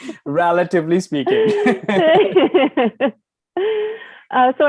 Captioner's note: laughter